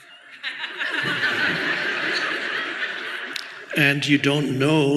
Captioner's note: audience laughs